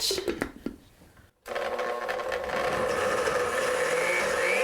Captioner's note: blender revving